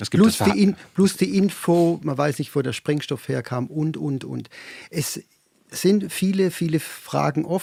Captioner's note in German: schnauben